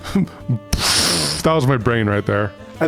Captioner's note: mimics explosion